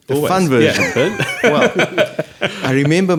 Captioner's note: laughing